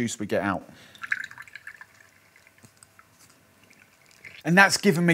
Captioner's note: squeezing lemon